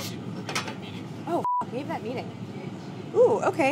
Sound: beeping

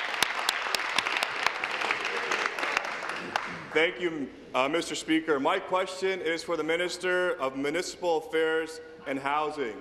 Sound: applause

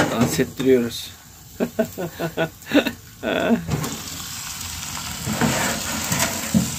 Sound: laugh

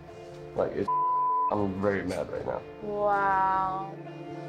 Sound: beep

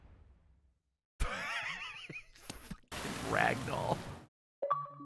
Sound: laughs

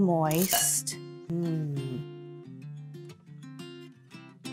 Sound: moans

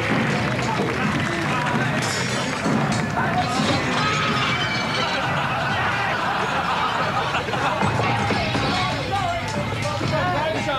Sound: smashing glass

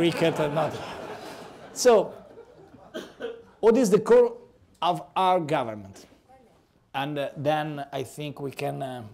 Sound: laughter

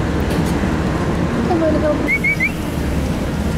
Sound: whistles

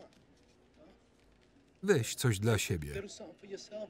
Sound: speaking in a foreign language

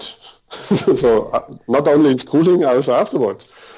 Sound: laughs

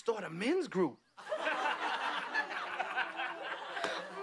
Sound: la ughing

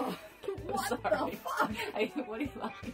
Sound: laughs

